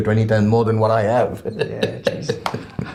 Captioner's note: laughs